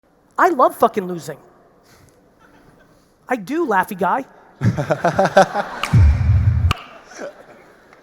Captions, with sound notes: I love fucking losing. (man laughing) I do, laugh-y guy. (audience laughing)